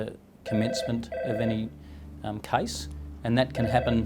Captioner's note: phone ringing